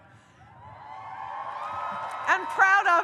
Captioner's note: audience cheers